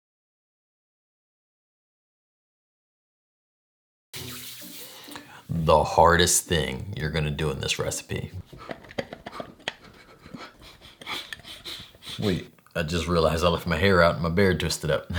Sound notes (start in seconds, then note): 4.3 hands rubbing; 8.4 heavy breathing and shaking